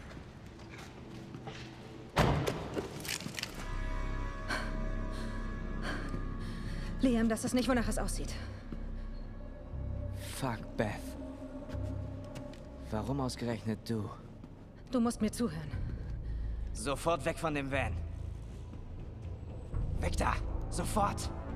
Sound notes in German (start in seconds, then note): 2.1 schweres atmen